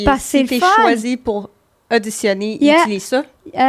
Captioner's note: in french